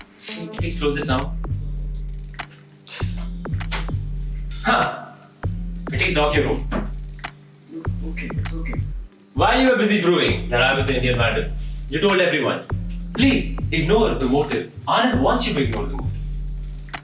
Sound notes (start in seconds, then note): 7.6 whispers